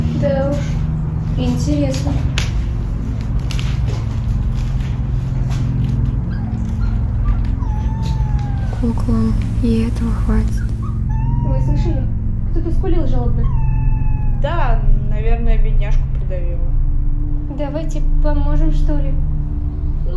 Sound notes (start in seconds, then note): 6.2 the sound of a howling dog